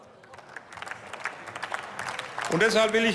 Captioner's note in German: Beifall